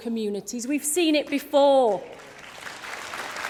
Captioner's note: applause